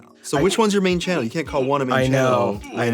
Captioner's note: circles squeaking